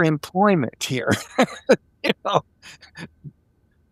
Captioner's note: laughing